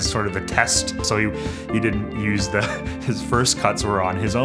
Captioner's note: chuckles